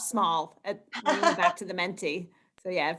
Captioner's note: chuckles